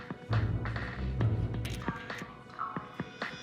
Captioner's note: phone camera clicks